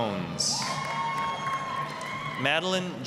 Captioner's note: applause, cheering